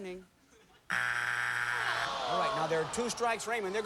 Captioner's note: buzzer